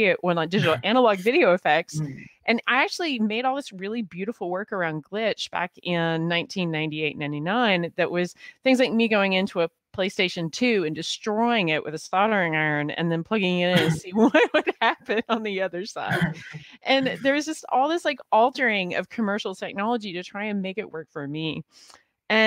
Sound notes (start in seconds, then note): 16.0 laughing